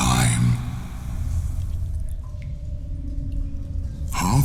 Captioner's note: cave noises